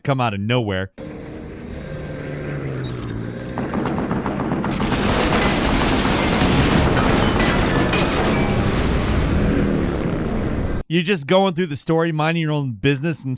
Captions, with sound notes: to come out of nowhere. (airplane engines whirring) (siren blaring) (guns blasting) You're just going through the story, minding your own business,